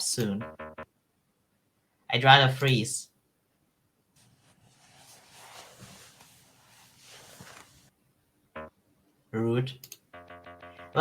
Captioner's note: rustling